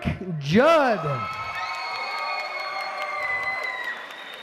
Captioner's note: applause